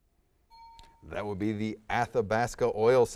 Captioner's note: ding